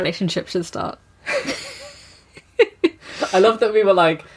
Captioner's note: laughs